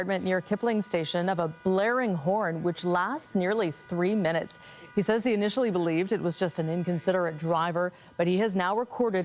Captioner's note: honking